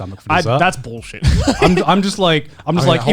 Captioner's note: laughs